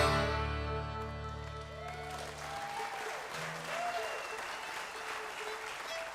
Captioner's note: audience applauding